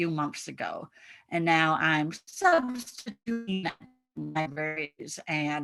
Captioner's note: audio muffling